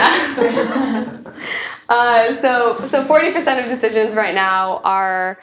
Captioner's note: laugh